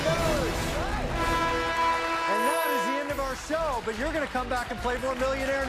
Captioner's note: cheers and applause; horn blares